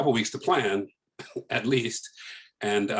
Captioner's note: laughs